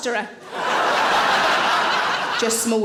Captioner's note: audience laughing